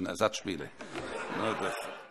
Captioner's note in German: Heiterkeit